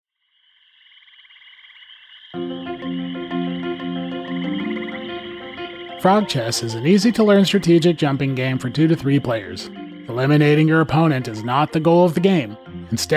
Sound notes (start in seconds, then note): 0.5 frogs croaking